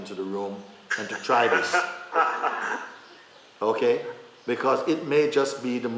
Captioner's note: laughter